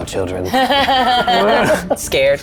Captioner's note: group laughs